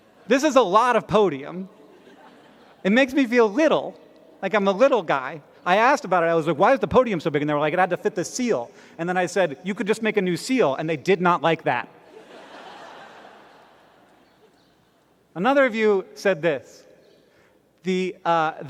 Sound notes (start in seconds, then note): 12.0 laughter